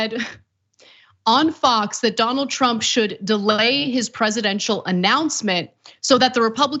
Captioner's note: laugh